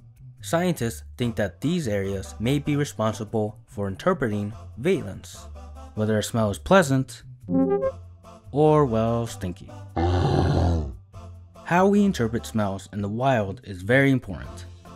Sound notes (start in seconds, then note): 7.5 power up sound; 9.9 bear roar